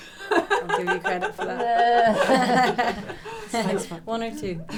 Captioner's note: laughter